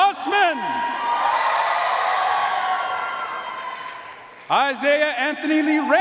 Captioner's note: audience cheering and applauding